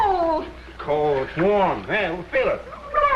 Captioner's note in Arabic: غرغرة